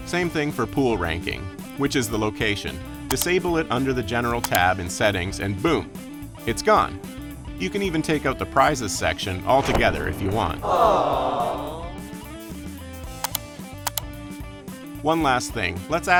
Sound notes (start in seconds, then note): 9.6 crowd